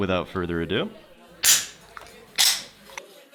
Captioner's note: can opens